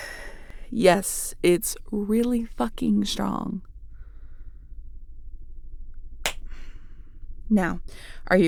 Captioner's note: sigh